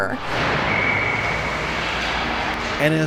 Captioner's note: whistle blows